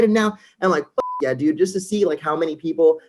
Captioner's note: beep